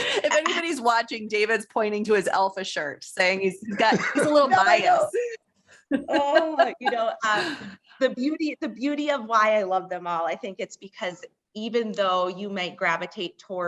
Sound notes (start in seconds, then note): 5.8 laughter